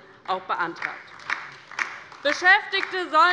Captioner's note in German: Beifall bei der LINKEN